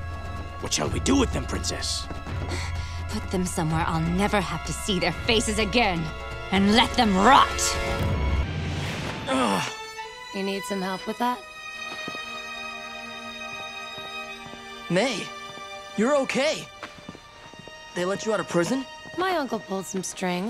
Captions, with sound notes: What shall we do with them, Princess? Put them somewhere I'll never have to see their faces again and let them rot. [groaning] You need some help with that? Mai? You're okay. They let you out of prison? My uncle pulled some strings.